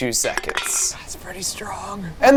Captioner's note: can clinking